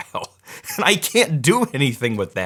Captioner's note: laughing